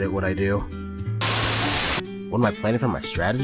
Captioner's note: Static